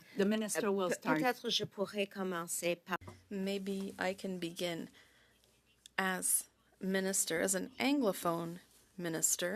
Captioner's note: speaking French